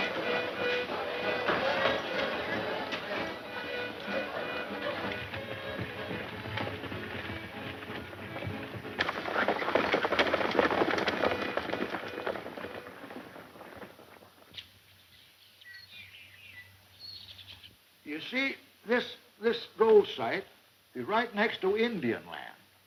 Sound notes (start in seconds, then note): 0.2 accordion music; 10.2 horses galloping